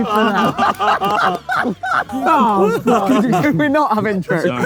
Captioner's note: group laughs